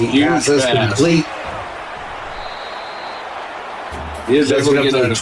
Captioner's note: whistle blows